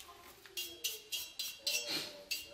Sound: clinking brushing

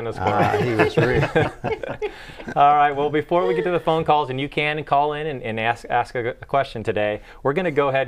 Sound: laughing

